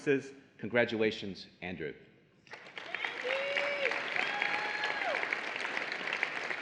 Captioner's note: applause and Cheering